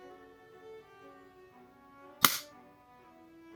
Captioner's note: crack